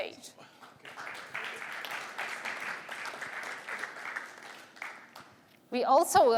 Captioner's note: applause